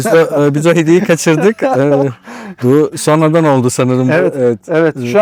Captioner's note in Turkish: kahkaha